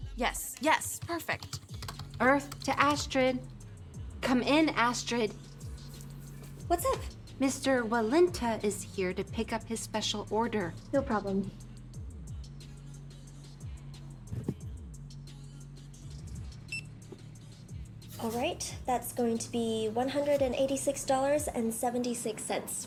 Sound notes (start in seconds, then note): 0.9 typing; 16.7 register beeps